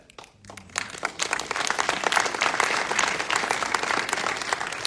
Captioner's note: audience applauding